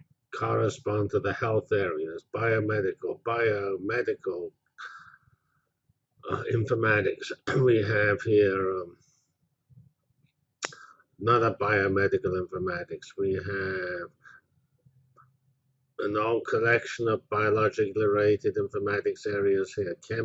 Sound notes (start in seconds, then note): 7.4 cough